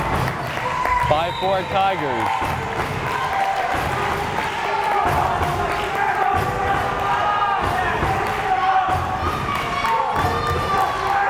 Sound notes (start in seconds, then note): 2.3 crowd cheering